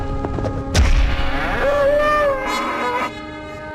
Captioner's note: bull grunts